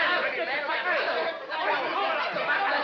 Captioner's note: clamoring